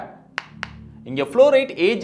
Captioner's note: tapping sounds